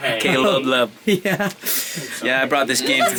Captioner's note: chuckling